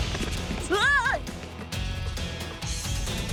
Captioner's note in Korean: 셉의 비명